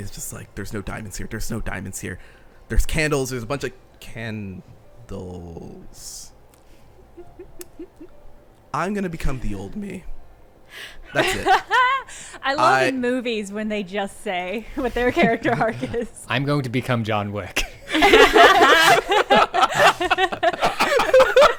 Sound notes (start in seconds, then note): 14.8 laughing; 17.8 everyone laughing